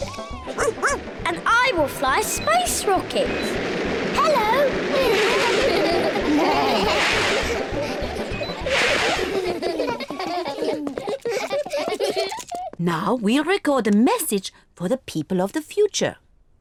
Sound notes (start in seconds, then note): 0.5 barks; 4.9 all laugh